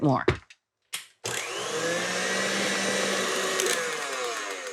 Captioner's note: mixer whirring